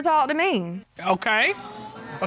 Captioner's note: audience exclaiming